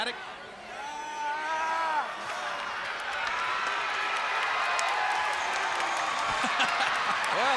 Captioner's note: crowd cheering